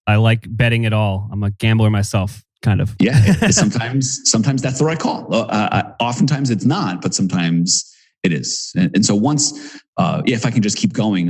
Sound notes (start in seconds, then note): 3.0 laughs